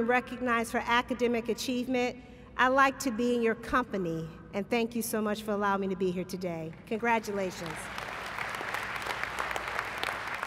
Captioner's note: applause